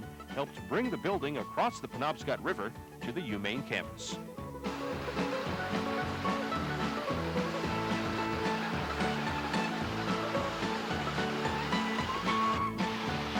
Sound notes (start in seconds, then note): 3.9 music and engine rumbling